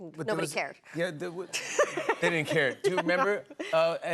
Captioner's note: laughter